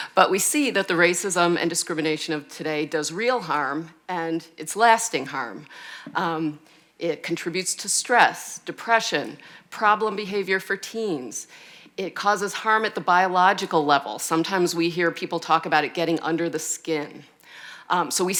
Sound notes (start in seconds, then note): none